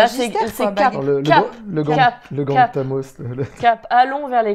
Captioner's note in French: rire